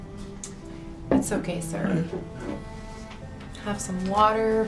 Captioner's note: continues stammering; Mr. Young mumbles